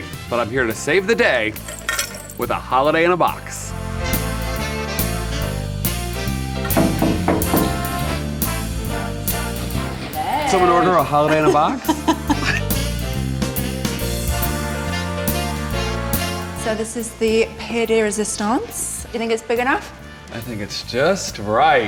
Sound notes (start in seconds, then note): 3.5 bright music; 6.6 knuckles knocking; 10.2 Rosie laughing; 12.8 bright music